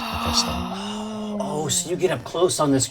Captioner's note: all gasp